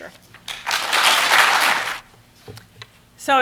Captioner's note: applause